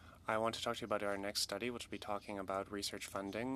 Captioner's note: speaking French